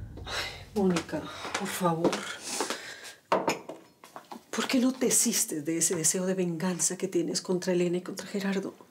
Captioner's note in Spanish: exhala